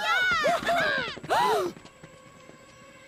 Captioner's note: Gophers Cheering; bass Gasping